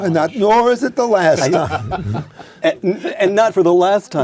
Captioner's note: laugh